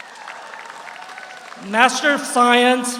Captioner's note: audience cheers; audience applauds